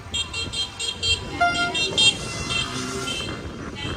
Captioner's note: honking